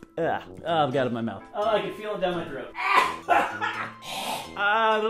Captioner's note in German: hustet